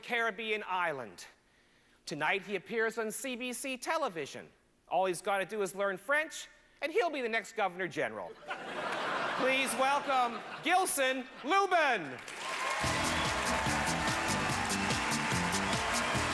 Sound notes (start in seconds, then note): 8.4 laughter; 12.0 upbeat, applause